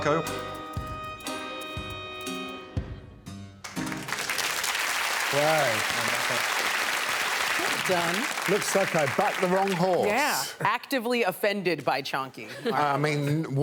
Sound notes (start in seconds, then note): 0.0 upbeat music; 0.0 bell rings; 1.9 upbeat music; 3.6 audience applauding